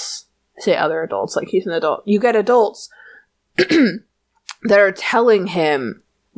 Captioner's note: coughs